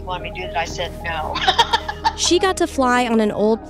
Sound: laughing

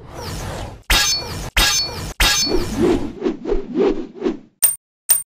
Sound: More Beyblade tinking

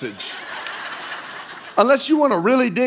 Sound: congregation laughing

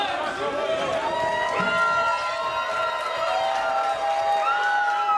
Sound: laughing; guests cheering

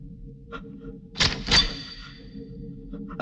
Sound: gun cocking

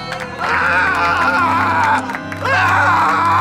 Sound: screaming

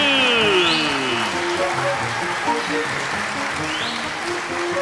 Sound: audience applauding

